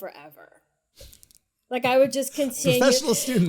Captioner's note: laughs